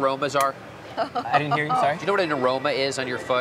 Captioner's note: laughing